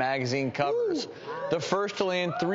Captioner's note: whew